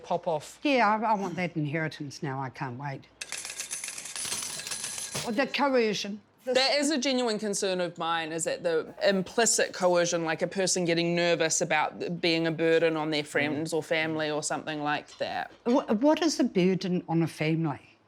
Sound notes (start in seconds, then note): 3.6 cash register chiming